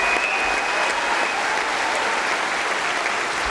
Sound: applause

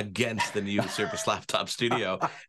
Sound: laughing

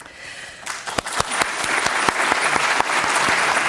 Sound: audience clapping

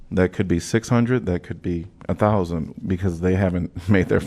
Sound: laughter

